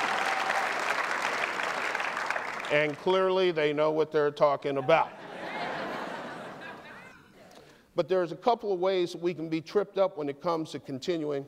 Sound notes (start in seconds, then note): 0.0 applause; 4.9 laughter